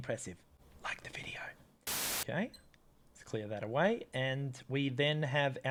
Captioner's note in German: flüstert